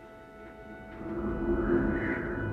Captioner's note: angin bertiup